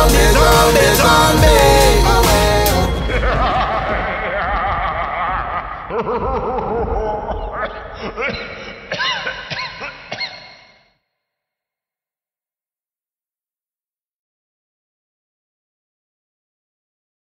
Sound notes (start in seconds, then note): 3.0 zombie laughing; 6.1 zombie coughing; 7.8 zombie gagging